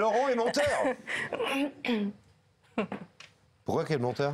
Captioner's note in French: Rires